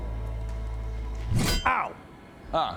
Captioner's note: bonk